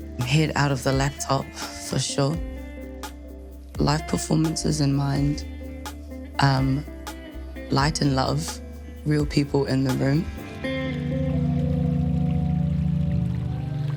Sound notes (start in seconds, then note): 10.2 water trickles